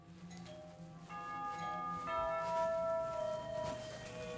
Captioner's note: doorbell chimes